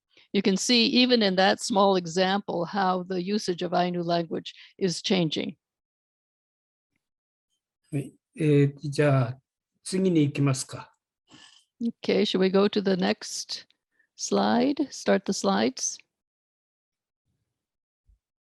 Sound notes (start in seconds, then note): 9.1 speaking japanese